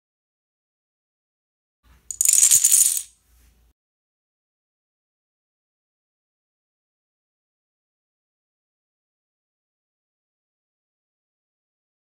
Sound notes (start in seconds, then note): 2.1 dominoes falling